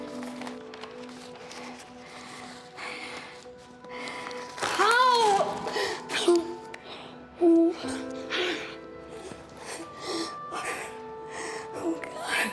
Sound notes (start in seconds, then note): 1.0 breathes heavily; 5.5 sobs